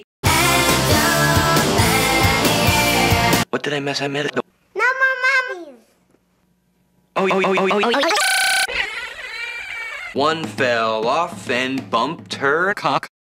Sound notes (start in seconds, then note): 7.1 "oh" stuttering and speeding up; 7.4 monophonically slowed down laugh